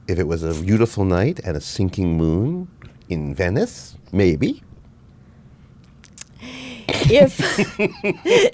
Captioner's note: laughs